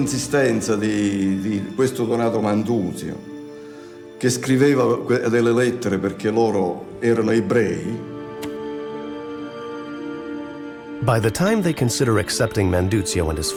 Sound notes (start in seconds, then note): 8.5 gentle music continues; 8.5 letter thumping